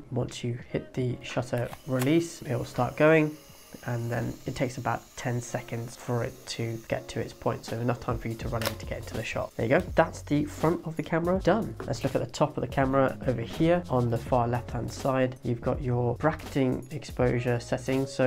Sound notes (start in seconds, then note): 1.6 camera whirring; 8.6 camera clicks